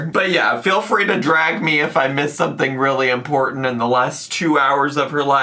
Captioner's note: none